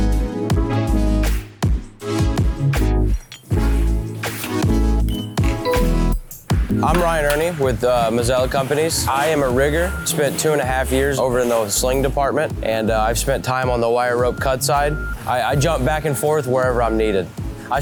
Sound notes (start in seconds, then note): 5.0 machine beeping